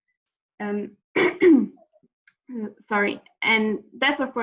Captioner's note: clears throught